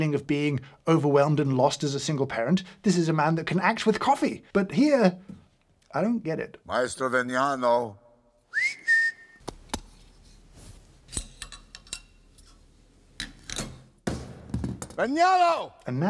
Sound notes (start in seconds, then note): 6.8 speaks in Italian; 8.4 director whistles; 11.2 machine clatters; 13.2 part thuds